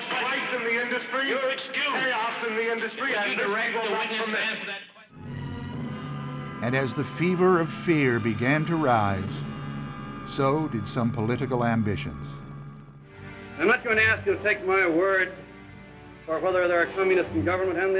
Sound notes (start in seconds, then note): 2.8 muffled shouting; 4.8 dramatic music